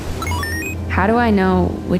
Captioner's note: electronic noises